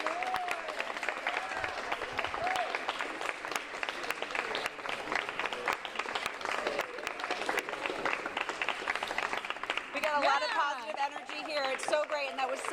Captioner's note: applause